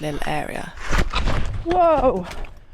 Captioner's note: slip